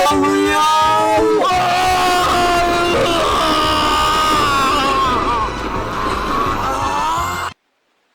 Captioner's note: screams of agony